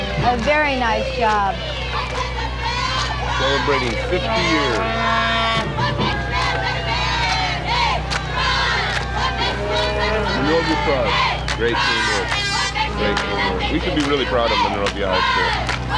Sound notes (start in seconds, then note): 1.6 cheering; 5.1 cheering Continues